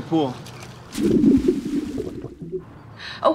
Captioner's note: water gurgling